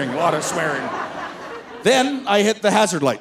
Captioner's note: audience laughing